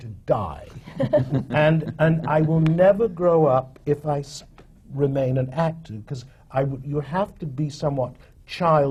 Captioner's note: laughter